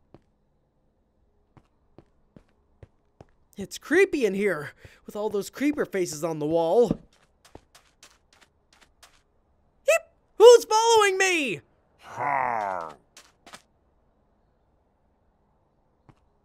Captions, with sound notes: It's creepy in here. With all those creeper faces on the wall. (footsteps approaching) Eep! Who's following me? (mob grunting)